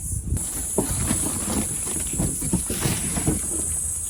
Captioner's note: sodden cardboard box crashes into a garden